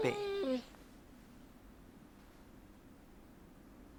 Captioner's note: dog whimpers